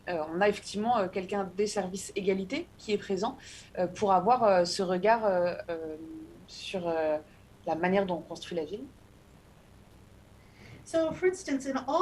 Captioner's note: speaking non-english